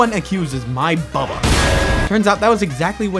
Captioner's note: clang